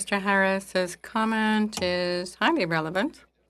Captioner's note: speaking French